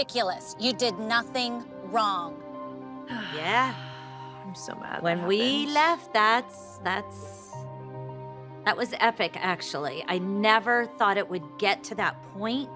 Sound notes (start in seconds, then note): 3.1 Kendall sighs